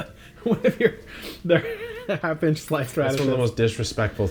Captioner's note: laughs